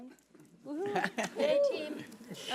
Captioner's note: laughing